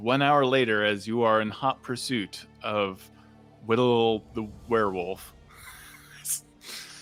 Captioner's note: wheezes